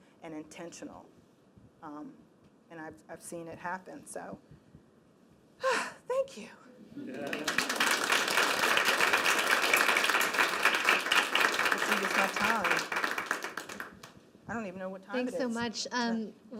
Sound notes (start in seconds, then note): 5.3 sighs; 7.1 applause